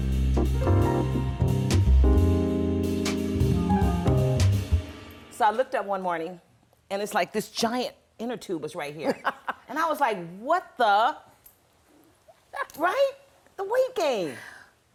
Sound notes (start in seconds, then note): 9.0 laughter